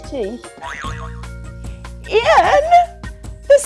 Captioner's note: buzzer boing